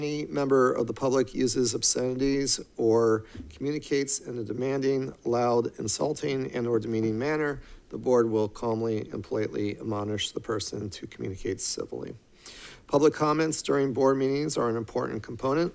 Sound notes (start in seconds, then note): none